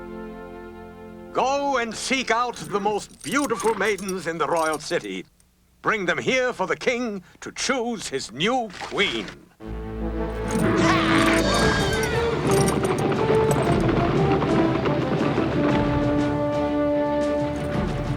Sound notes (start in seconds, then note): 10.4 horses neigh; 12.5 chariot wheels clacking